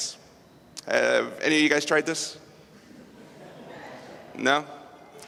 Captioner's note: laughter